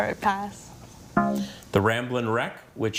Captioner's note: text buzzing